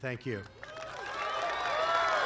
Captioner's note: applause